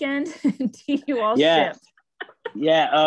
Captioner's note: laughing